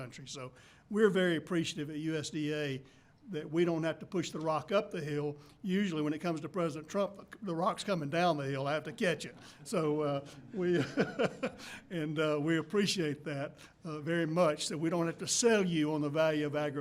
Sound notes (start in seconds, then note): 10.3 laughter; 10.3 laughs